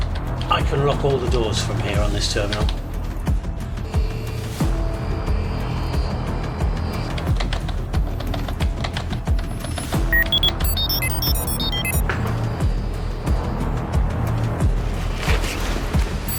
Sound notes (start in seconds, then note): 4.4 tense music continues; 7.6 keys clacking